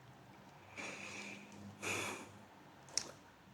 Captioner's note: sigh